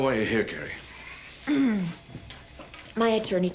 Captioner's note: clears throat